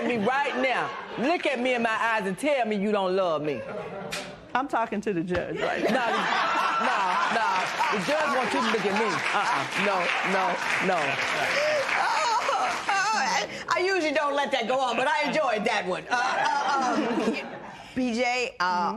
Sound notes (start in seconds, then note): 5.6 laughter